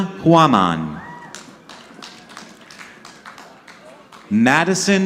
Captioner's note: audience clapping